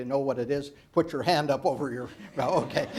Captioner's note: laughs